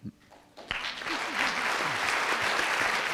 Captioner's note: applause